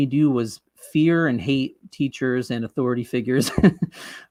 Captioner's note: chuckles